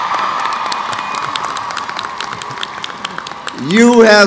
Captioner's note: cheers